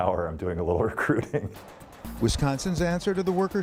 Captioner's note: laughter